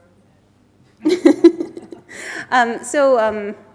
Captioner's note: laughs